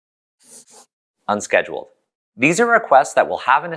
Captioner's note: pencil scribble